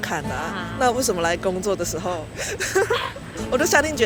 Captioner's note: laughs in peer pressure